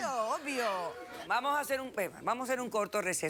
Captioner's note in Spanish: risas del público